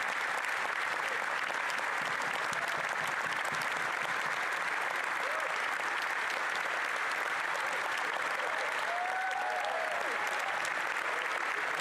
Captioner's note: cheering and applause